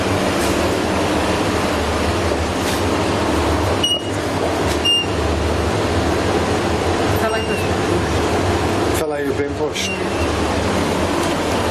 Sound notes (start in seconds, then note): 3.8 device beeping